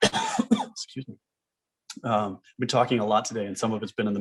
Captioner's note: coughs